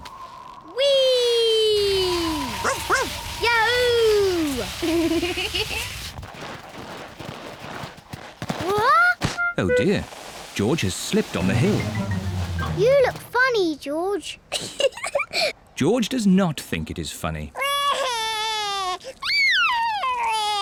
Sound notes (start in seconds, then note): 1.7 wind whistling; 2.9 barks; 4.9 giggles; 14.8 giggles; 19.4 cries